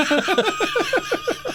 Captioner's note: laughing